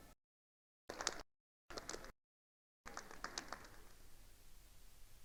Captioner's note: attendees applauding